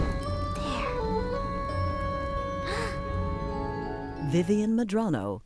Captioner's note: sizzling; gasps